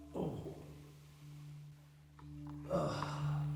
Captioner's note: Danny groans